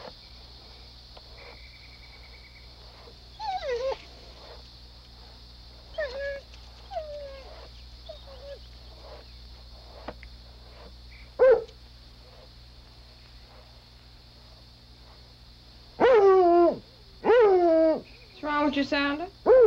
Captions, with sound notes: [Whimpers] [Barking] >> What's wrong with you, Sounder?